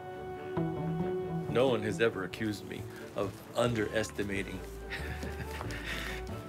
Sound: chuckles

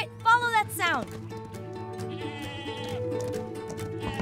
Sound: goat bleating

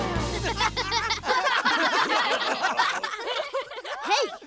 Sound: laughing

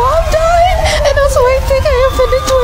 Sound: sobbing

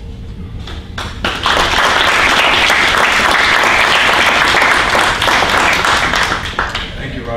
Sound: applause

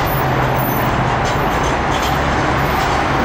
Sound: bells Ringing

